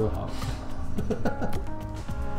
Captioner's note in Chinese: 奸笑